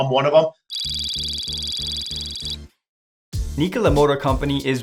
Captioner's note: electronic tones; upbeat music